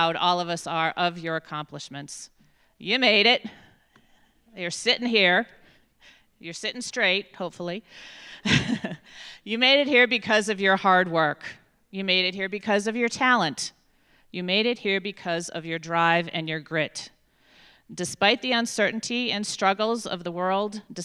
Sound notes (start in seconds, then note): 8.4 chuckles